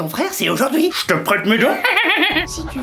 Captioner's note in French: rires